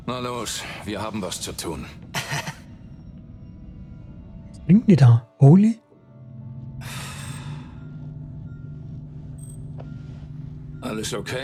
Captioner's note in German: seufzt